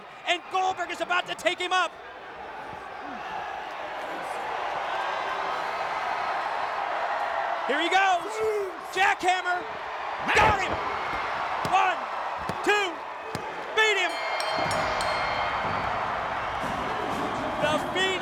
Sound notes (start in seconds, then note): 5.3 crowd cheering; 14.0 bell dinging